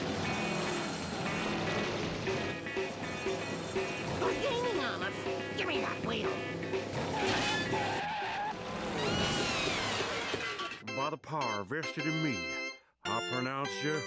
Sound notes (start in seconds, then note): 6.2 tires screeching